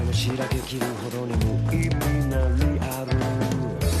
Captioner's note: running footsteps